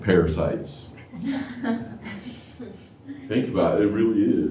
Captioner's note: laughter